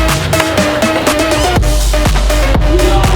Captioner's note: crowd cheering